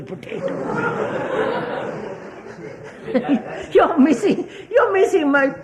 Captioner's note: laughter